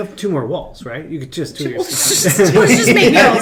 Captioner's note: laughs